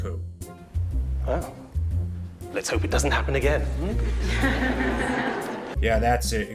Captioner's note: students laugh